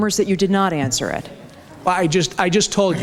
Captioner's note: audience reaction